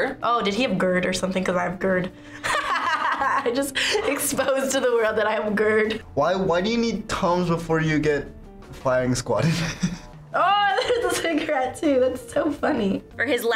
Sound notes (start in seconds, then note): 2.4 laughs